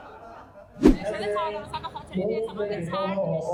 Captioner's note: laughter